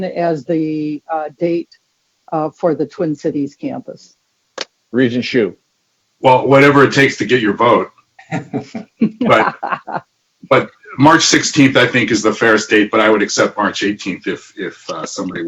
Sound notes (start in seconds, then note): 8.2 laughing